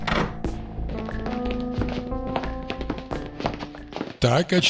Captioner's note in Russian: дверь открылась; шаги